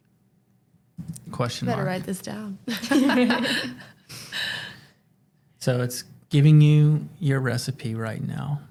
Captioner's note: laughter